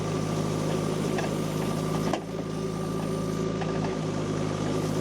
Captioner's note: tractor rumbling continues